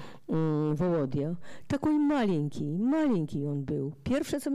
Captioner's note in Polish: fraza po rosyjsku